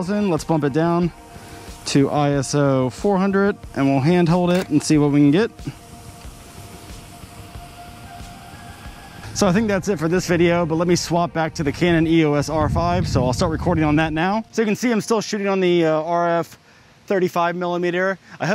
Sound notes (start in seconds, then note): 4.4 shutter closes